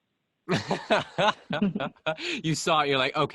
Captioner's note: laughs